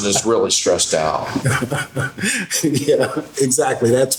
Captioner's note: laughing